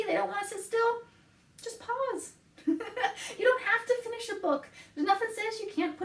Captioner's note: laughs